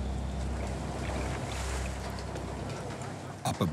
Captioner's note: water splashing